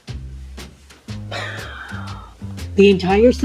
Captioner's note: deep sighing